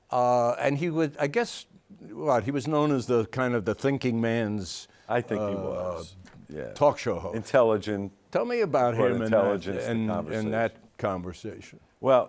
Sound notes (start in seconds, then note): none